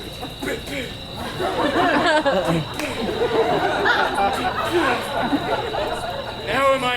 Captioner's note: gasps; imitating throbbing blood loss